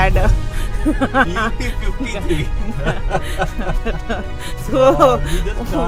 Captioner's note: laughs